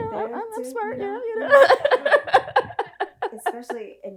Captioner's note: laughs